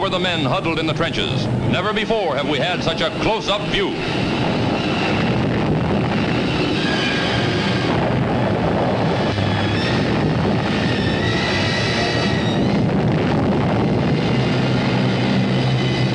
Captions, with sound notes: the men huddled in the trenches. Never before have we had such a close up view. (bombs blasting) (dramatic music)